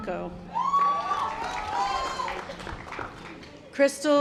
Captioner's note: audience applause